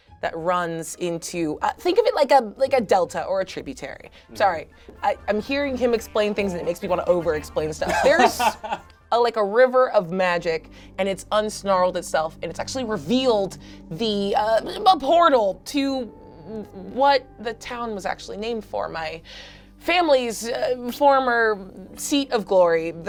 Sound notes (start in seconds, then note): 7.8 laughs